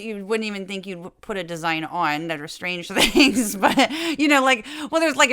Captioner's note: laugh